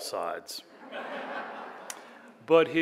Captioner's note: laughter